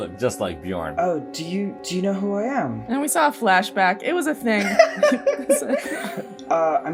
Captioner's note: laughter